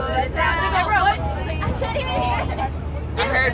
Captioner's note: kids mumbling